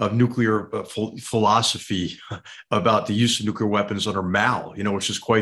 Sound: laugh

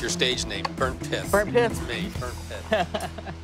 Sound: laughs

